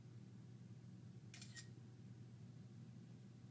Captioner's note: camera shutter sound